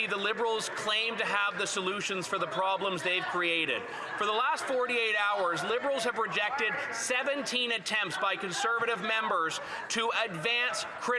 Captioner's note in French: voix de l'interprète